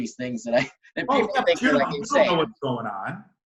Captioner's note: murmurs